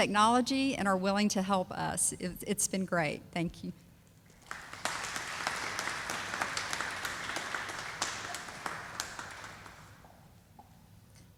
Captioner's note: sound of applause